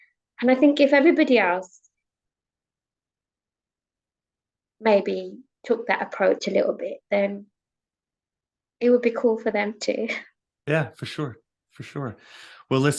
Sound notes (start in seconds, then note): 10.3 chuckles